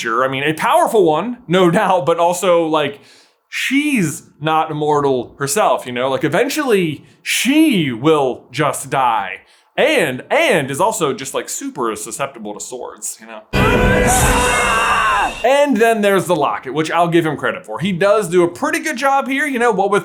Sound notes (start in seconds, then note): 13.5 scream of victory